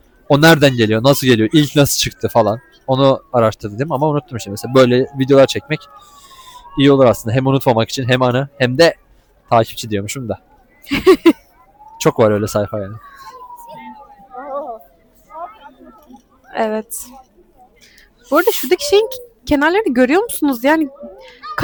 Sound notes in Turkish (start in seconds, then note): 10.8 kahkaha